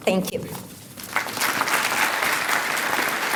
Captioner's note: applause